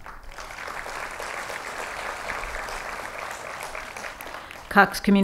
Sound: applause

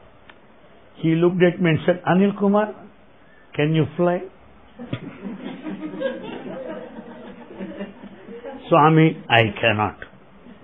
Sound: laughter

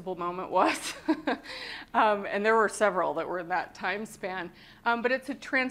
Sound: laughter

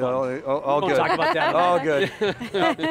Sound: laughter

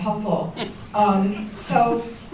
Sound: laughter

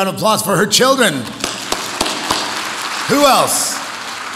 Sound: audience applauds

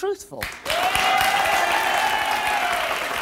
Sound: applause

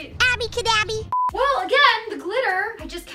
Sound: beep

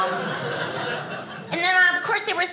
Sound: audience laughing

